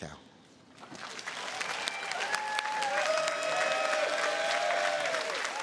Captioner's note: audience applauding